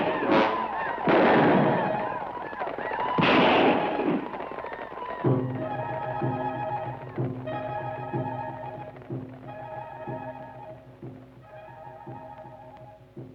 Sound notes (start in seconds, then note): 0.0 guns fire; 9.4 suspenseful orchestral music